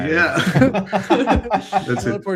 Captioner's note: laughter